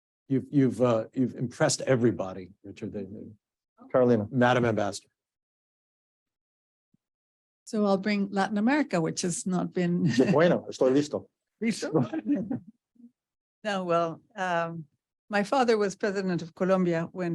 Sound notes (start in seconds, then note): 10.0 laughs; 10.4 speaking Spanish; 11.8 all laughing